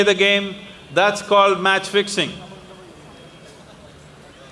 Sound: laughs

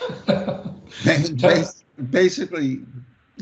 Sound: laughs

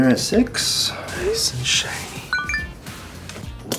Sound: cell phone beeps

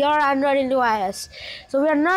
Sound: inhale

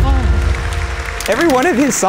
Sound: applause

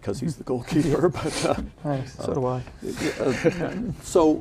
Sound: laughing

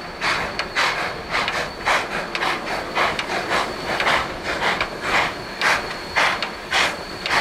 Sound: locomotive chugging

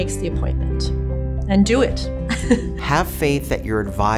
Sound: laughs

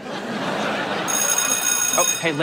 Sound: bell ringing

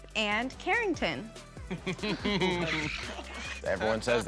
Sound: chuckling

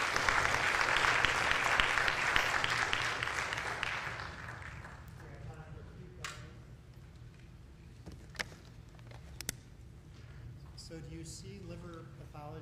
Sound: applause

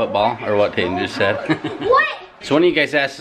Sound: laughs

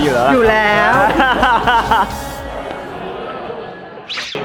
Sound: laughs

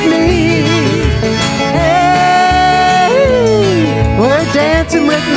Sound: yelling

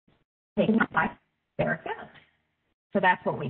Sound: audio distorting

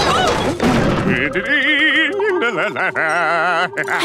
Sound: humming; laughing

